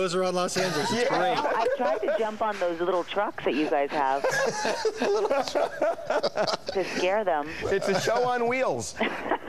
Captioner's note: laughter